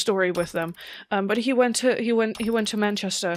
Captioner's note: none